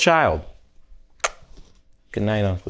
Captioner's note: lips smack